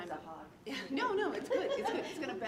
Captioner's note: audience laughing